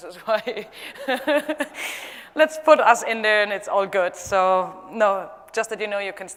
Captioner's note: laugh